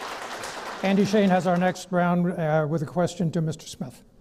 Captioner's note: clapping